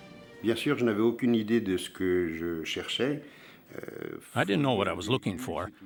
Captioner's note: speaks in foreign language